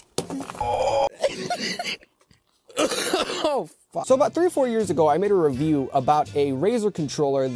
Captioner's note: coughing